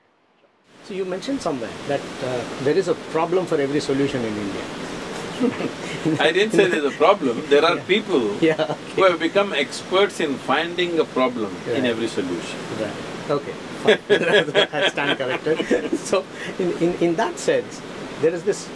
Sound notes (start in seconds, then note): 5.2 laughs; 13.8 both laugh